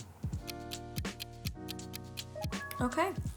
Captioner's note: clock ticking